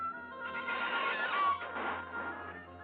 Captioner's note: hinges creaking